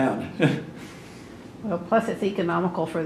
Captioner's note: laughs